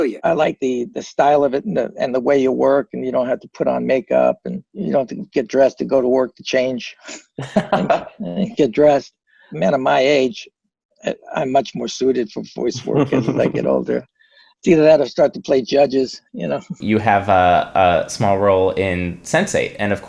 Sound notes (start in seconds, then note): 7.0 chuckling